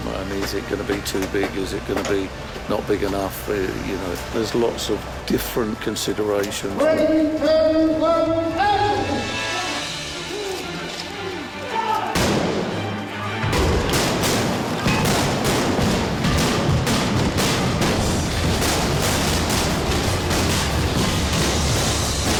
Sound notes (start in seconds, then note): 12.1 explosions